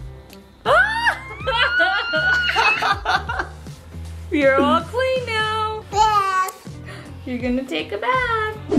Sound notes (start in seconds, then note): 1.6 screaming; 2.9 parents laughing